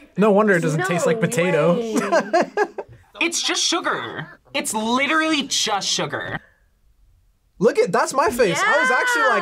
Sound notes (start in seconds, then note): 1.0 laughs